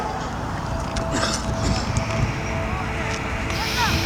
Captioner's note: breathing